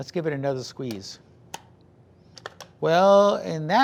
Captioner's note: clicking slicer